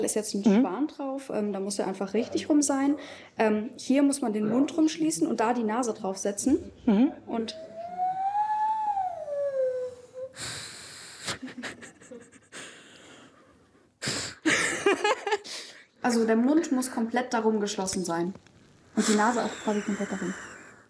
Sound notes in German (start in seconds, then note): 11.2 Lachen; 14.3 Tonloses Schnaufen, Lachen